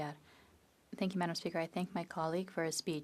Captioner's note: speaking French